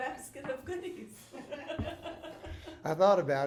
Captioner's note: laughing